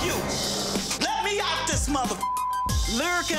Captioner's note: beep